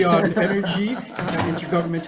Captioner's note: senators laughs